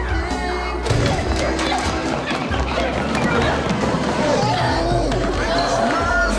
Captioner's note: yelling; feet scuffling